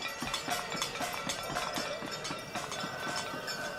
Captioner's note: loud clanging